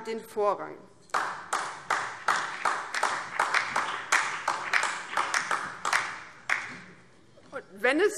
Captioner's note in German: Beifall BÜNDNIS 90/DIE GRÜNEN und DIE LINKE